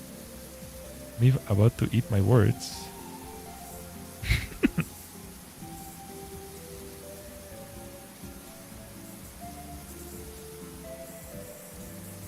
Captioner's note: laughter